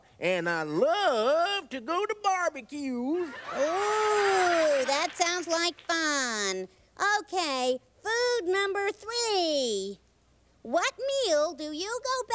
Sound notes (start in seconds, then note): 3.3 audience laughter